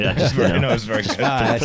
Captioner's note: laughs; chuckles